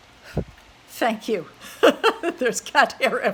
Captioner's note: laughs